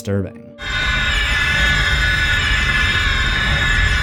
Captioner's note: will screaming